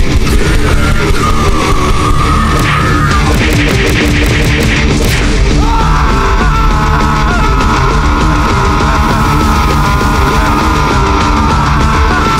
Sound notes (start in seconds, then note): 4.8 explosion; 5.5 screaming in agony